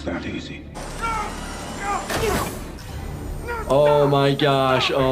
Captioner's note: person screaming